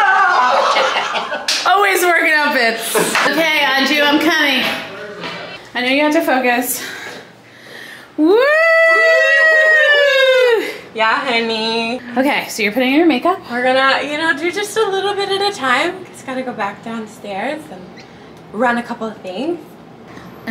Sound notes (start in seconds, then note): 0.0 person screaming; 0.1 person laughing; 6.9 person sighs; 8.2 people cheering